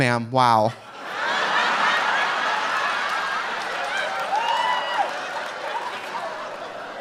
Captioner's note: audience laughing; audience applauding